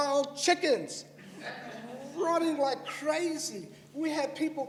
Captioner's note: laughter